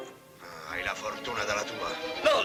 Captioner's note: laughing